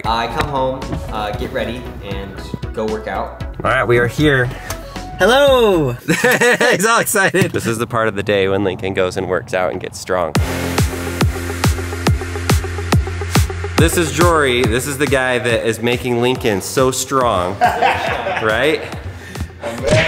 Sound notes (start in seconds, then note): 5.8 laughs; 10.3 upbeat music; 17.5 laughs